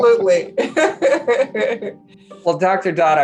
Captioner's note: laughing